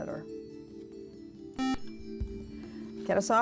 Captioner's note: buzzer